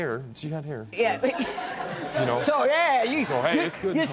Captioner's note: laughter